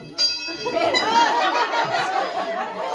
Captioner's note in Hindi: घंटी की आवाज़